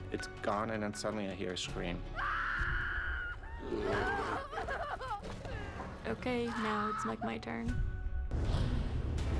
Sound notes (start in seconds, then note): 2.1 screaming; 3.1 sobbing